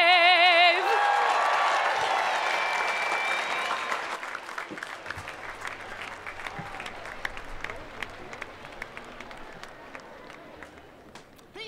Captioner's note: cheering and Applause